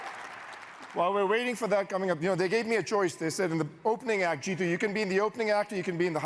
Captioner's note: cheers and applause